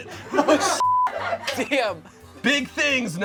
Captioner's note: crew laughs; beep